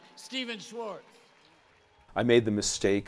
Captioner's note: applause